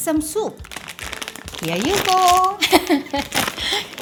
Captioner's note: laughs